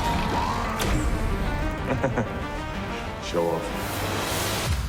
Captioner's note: laughs